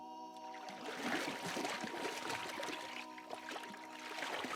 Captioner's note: water sloshing